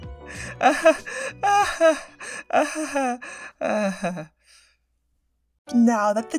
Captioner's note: forced laughter